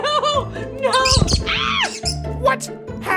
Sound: gasping; squawking

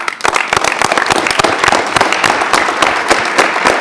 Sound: attendees clapping

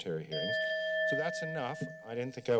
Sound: bell rings

